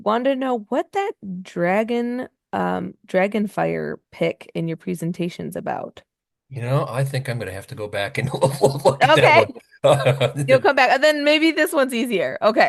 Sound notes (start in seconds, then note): 6.6 laughs